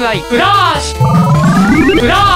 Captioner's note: sound effect of gathering strength